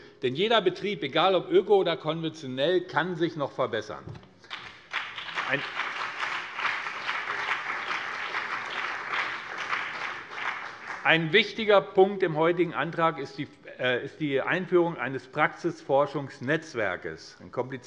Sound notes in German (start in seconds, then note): 4.4 Beifall BÜNDNIS 90/DIE GRÜNEN und vereinzelt CDU